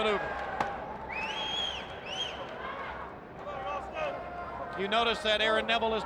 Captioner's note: audience member whistles